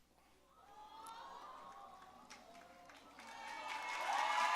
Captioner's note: audience cooing; audience cheering and applauding